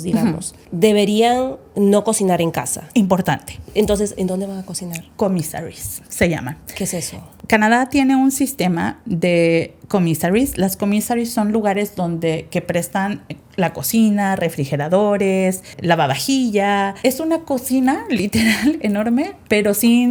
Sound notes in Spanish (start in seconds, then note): 18.3 risas